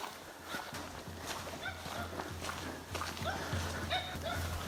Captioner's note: footsteps in woodland